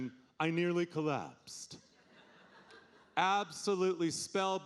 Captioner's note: audience laughing